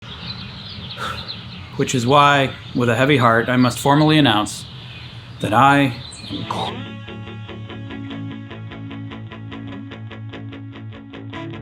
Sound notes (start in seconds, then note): 0.0 birds singing; 1.0 sighing; 6.3 rock music